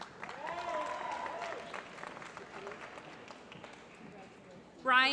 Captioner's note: applause